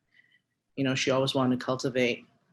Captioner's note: speaking Hawaiian